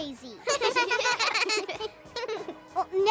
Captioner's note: laughter